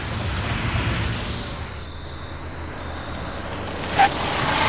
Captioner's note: Crickets chirping